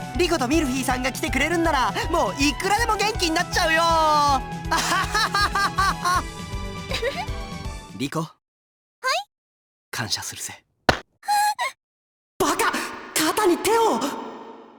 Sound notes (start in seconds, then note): 4.8 laugh; 6.8 giggle; 11.4 horrified gasp